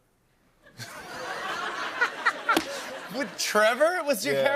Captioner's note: laughter